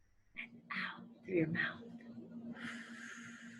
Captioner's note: whispers; exhales